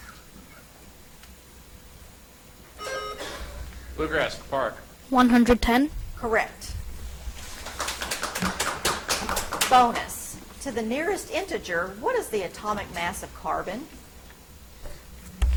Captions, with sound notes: (buzzer chimes) - Bluegrass, Kleparek. - 110. - Correct. (audience applauds) Bonus. To the nearest integer, what is the atomic mass of carbon?